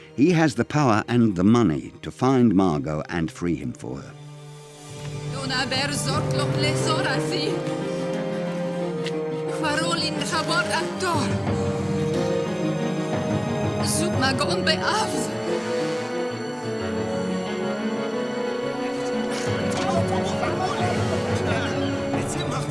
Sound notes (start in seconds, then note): 5.1 Biricrit speaking in foreign language; 12.3 tense music; 19.2 merchants chatting